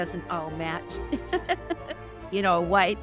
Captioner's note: chuckles